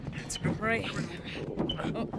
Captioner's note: closet thumping